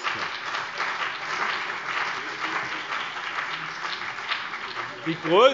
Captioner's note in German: Beifall BÜNDNIS 90/DIE GRÜNEN und CDU